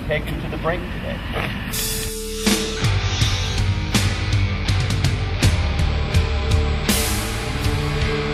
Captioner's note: phew